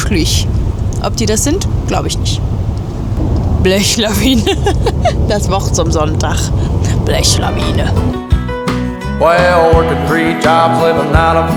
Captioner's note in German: gelächter